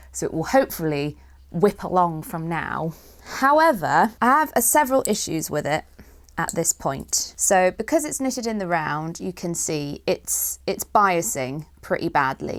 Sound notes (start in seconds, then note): none